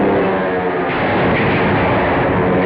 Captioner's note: explosion